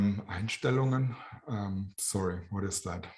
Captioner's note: german